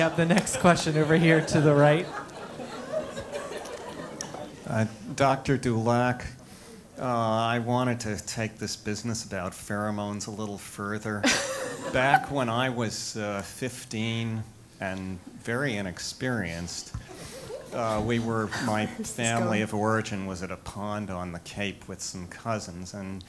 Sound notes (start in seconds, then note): 0.0 laugh; 4.2 laugh; 11.3 laugh